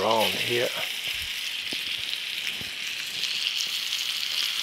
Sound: butter sizzling

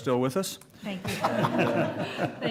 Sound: laughter

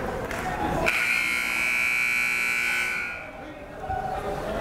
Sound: buzzer

